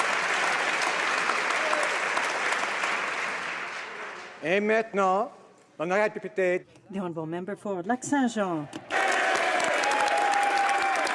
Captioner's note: some Applause